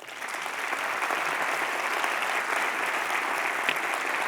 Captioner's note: applause